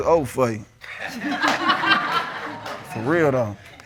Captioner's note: audience laughing